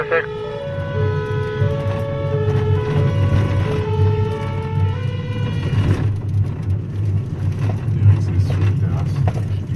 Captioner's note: sirens